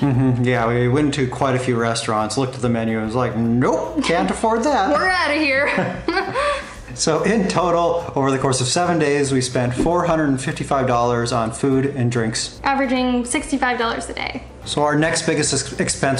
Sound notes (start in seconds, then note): 5.6 laughter